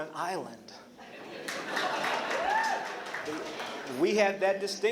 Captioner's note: laughter